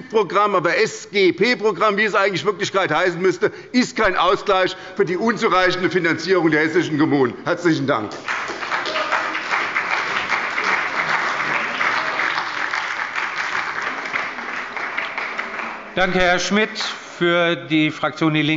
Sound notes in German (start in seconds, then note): 9.8 Beifall bei der SPD